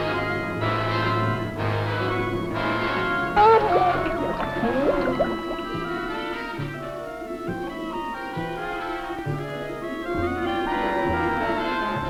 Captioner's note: yelping